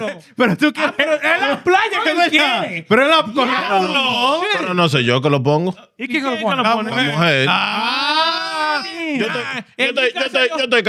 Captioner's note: speaking Spanish